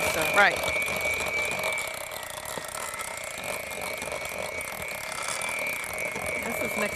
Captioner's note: whirring Sound